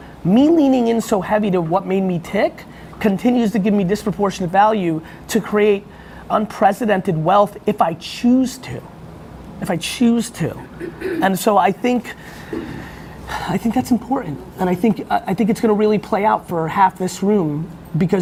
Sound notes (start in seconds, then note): 12.3 sighs